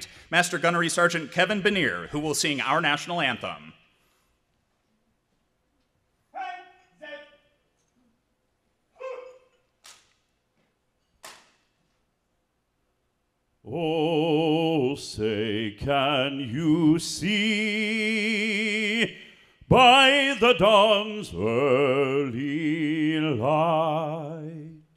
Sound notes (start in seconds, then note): 4.2 marine shouting orders